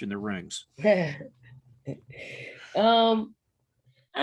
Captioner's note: Dawn chuckling